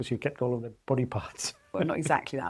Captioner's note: laughs